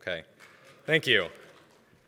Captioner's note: applause